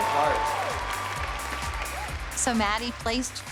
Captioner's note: cheering